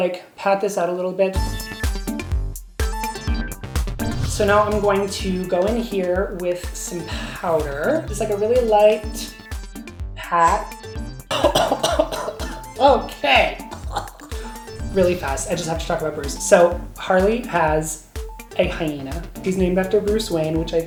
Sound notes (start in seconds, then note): 1.7 upbeat music; 11.3 coughing